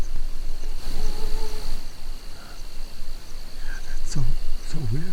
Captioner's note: animal noises